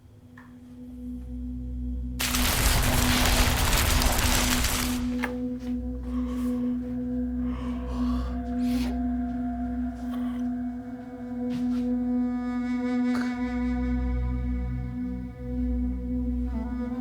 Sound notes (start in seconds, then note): 0.5 melodic music; 2.2 energy crackling; 7.5 Leo yawns